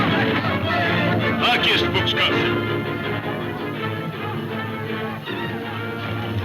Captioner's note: speaking in foreign language